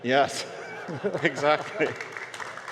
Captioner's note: audience laughter